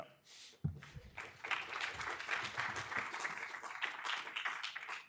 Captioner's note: audience applause